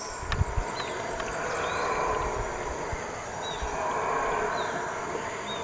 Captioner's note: monkeys howling